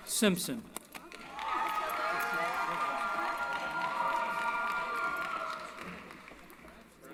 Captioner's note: cheering